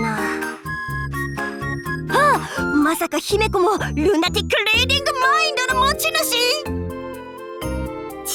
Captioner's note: gasp